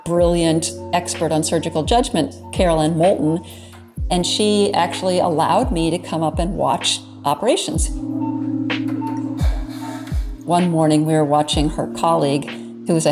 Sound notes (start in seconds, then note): 8.2 soft upbeat music; 8.7 machine beeping